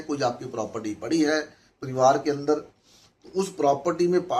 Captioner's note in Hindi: नाक से की जाने वाली आवाज़